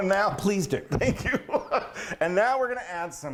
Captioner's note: laughing